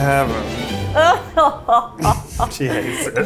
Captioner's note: laughs